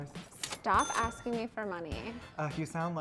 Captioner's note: cash register dings